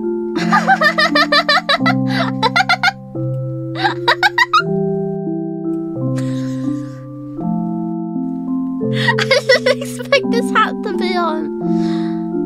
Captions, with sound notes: *laughter* *more laughter* *wheeze* I didn't expect this hat to be on.